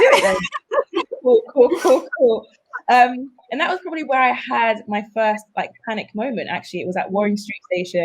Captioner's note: all laugh